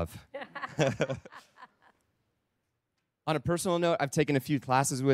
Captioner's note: laughter